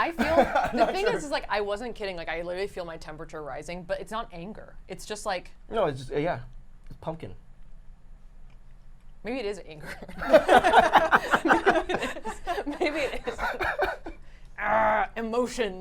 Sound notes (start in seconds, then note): 9.8 laughter